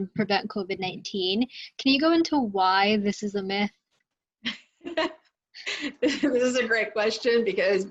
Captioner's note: laughter